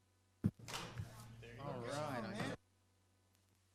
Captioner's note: group chatter; audio cuts out